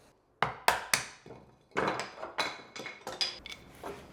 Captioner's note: chisel bangs